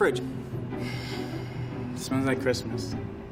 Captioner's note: exhaling